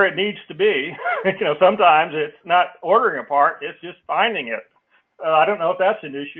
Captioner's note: laugh